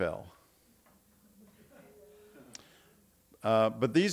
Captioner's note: audience laughing